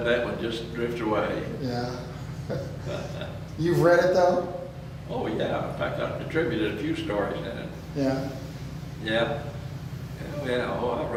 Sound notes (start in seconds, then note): 2.2 laughs